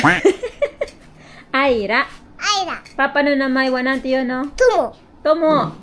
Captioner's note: laughter